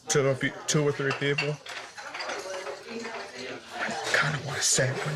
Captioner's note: whispers